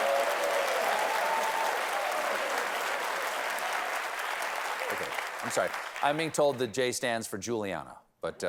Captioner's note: applause